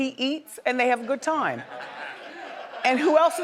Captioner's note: audience members chuckle